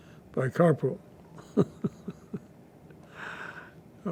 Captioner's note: laughing